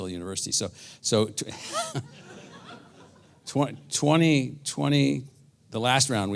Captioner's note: laugh